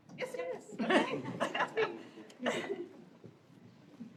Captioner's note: laughter